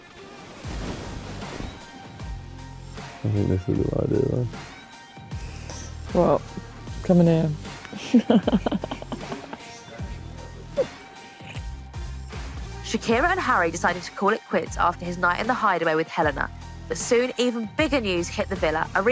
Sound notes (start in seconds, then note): 7.9 laughs